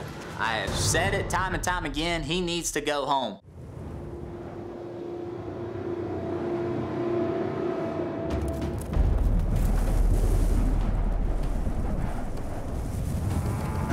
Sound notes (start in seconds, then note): 4.3 wind howling; 8.5 suspense music